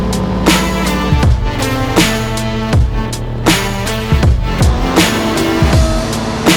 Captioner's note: machinery revving; upbeat music